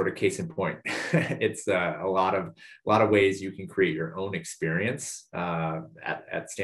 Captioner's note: laugh